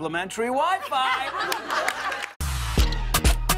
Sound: laughter and applause

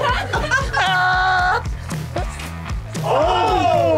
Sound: wails

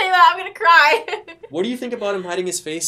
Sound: laughs

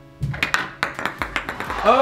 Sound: ball clacks; disappointed crowd

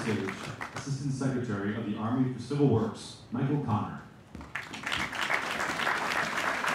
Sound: applause

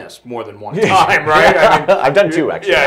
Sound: laughing

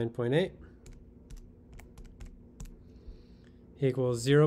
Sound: buttons clicking

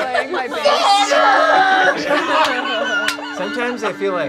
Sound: group laughing

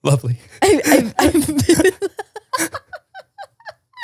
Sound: both laugh

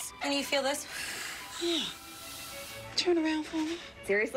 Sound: blowing

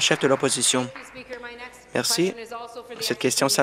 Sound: applause

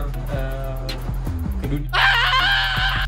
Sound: shout

